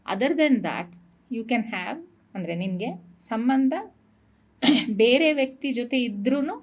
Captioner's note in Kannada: ಗಂಟಲು ಸರಿಮಾಡಿಕೊಳ್ಳುವಿಕೆ